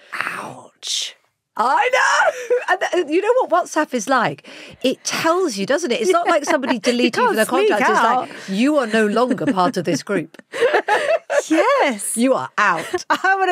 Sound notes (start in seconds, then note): 10.6 both laughing